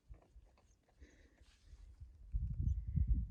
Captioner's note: wind noises and birds tweeting in the distance